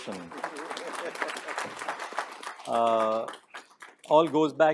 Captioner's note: audience applauding